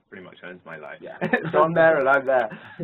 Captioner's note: laugh